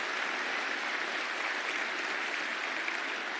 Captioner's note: applause